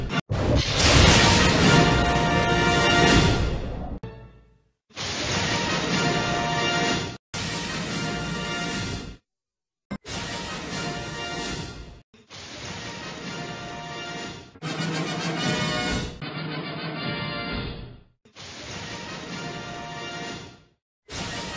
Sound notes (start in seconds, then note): 0.4 lightning crashing down as rousing fanfare plays; 4.8 lightning, zapping electricity and rousing fanfares continuing; 18.2 lightning, zapping electricity and rousing fanfares resuming